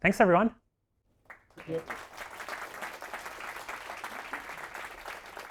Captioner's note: audience applauding